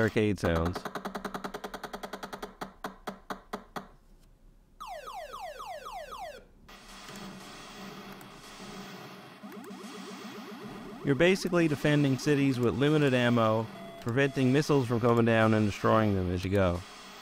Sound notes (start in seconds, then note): 0.7 epic arcade sounds